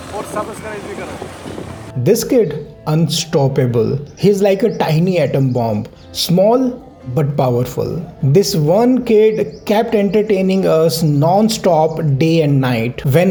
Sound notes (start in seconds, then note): 1.8 speaking foreign language